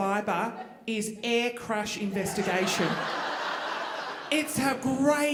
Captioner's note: audience laughing